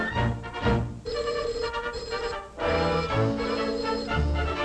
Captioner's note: loud ringing